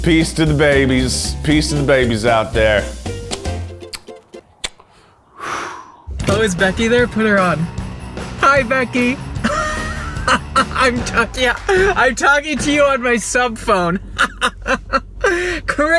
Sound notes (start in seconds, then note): 4.6 kisses; 6.2 upbeat music; 9.4 laughs; 13.8 laughs